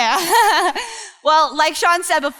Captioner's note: laughs